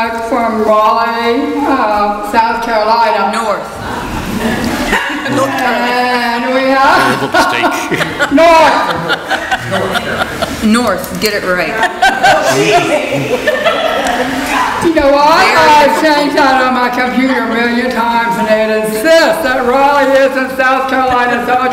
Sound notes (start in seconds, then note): 4.5 audience laughs; 11.5 audience laughs